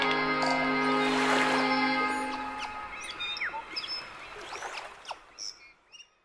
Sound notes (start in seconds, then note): 3.6 birds chirping